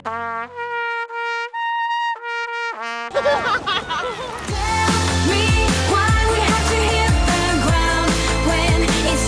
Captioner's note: applause